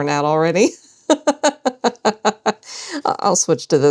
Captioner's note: laughter